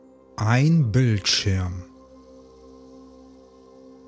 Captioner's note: german